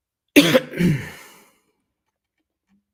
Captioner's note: coughing sound